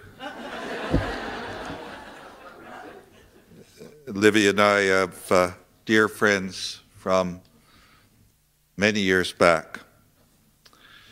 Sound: laughter

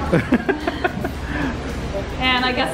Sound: laughing

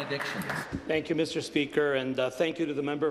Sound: applause

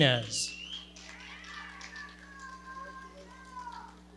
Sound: audience cheering and clapping

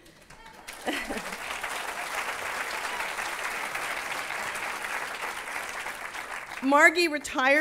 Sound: applause

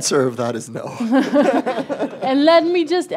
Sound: laughter

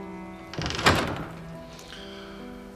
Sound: door closing

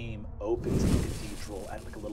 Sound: wooshes

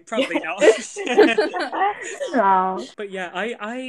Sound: laughter

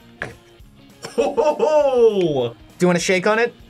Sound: laughs

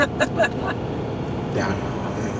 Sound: laughs

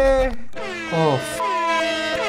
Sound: blaring; sad music

